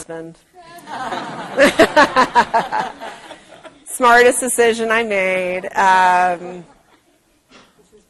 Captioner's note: laugh